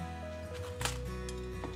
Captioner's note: thwop